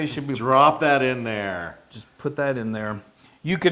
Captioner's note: laugh